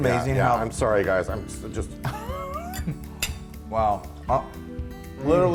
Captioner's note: laugh